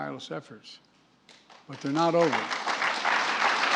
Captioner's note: applause